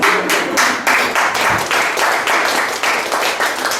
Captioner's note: laughs; guests applaud